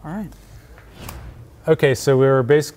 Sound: wind whooshes

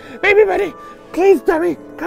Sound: wheezing excitedly

